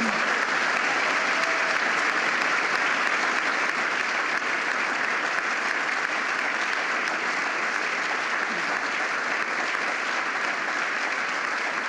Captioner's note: applause